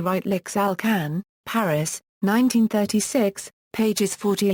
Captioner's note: German